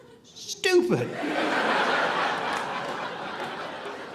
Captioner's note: audience laughing